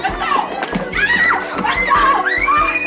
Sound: girl screams

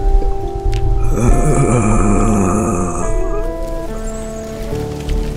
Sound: groans

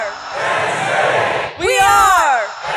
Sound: crowd

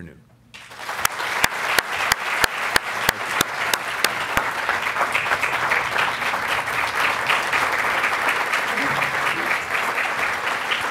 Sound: applause

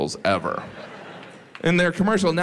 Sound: audience laughs

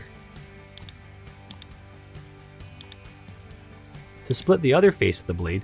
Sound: mouse clicking

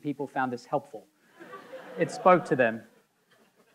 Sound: audience laughing

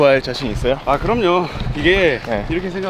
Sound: confident

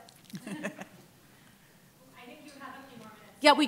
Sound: laughter

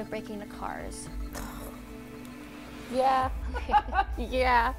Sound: laughs

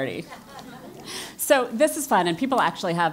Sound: laugh

